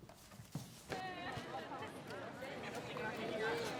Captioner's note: indistinct chatter